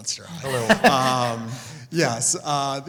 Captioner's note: laugh